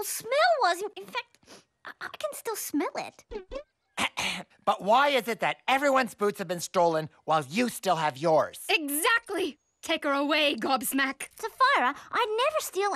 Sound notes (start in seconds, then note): 4.0 clearing throat